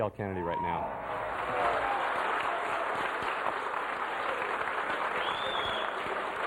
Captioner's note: applause, chanting